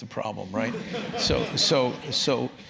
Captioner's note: laugh